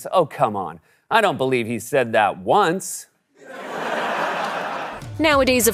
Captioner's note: audience laughs